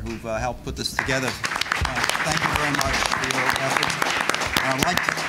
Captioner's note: applause